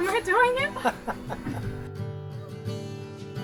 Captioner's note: laughing; gentle guitar music